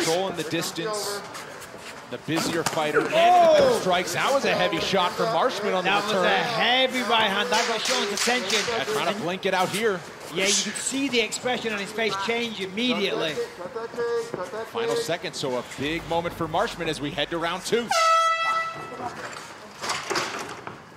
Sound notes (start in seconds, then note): 7.8 clapper